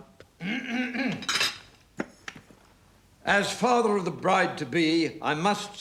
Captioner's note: clears throat